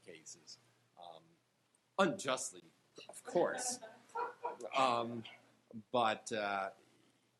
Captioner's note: panel members laughing